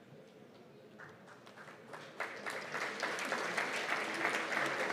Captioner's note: applause